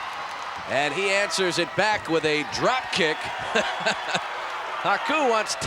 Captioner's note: laugh